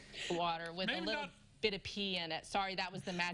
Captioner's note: laughter